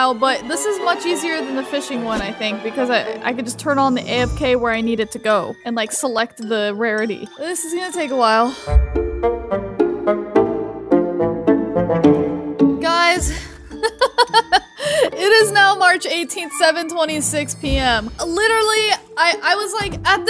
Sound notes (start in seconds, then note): 9.7 playful music; 13.7 laughs